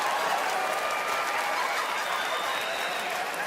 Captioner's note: applause, cheering and laughter; whistling and applause